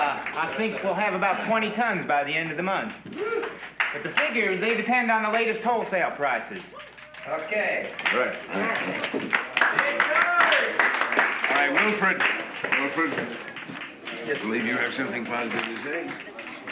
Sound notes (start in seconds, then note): 0.0 laughter; 8.7 cheers and applause